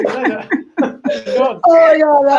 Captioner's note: laugh